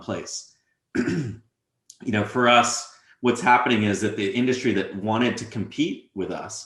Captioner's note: cough